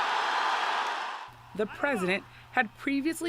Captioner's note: cheering and applause